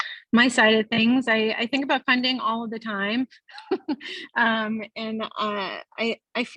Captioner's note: laughing